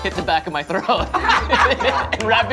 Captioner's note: laughter